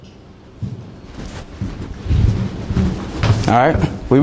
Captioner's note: footsteps clomping